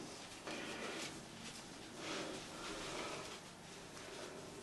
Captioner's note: person breathing